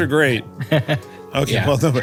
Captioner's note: laugh